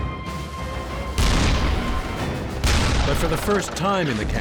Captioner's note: cannons firing